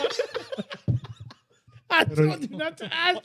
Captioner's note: laughing